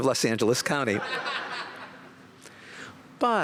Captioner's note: laughter